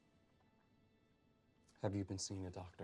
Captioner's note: none